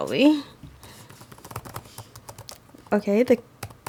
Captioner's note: keys typing